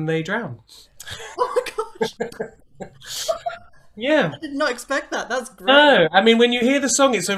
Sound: laughter

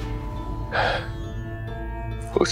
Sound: sighing

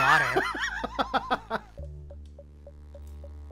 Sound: laughter

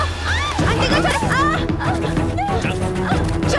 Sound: groaning

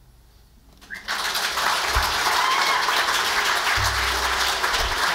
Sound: audience applauds

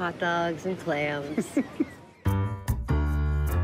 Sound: steve brady chuckles

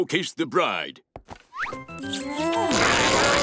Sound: smooching

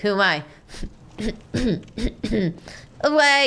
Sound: clearing throat

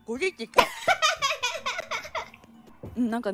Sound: laughing

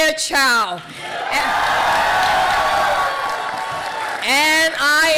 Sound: people cheering

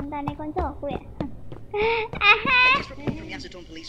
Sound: evil laugh

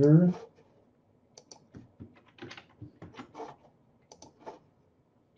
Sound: computer keys clicking

